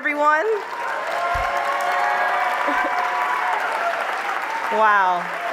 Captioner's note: applause